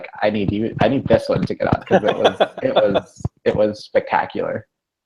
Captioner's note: laughs